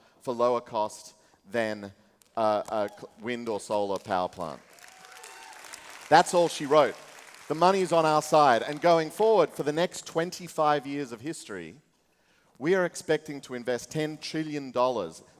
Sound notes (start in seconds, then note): 3.9 applause